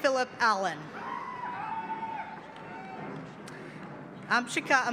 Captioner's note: cheering